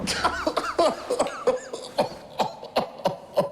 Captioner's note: sobs